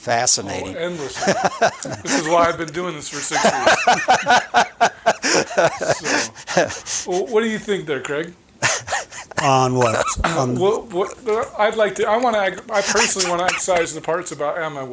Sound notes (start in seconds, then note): 7.0 chuckling